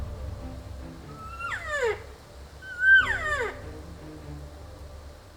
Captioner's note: elk lure sounds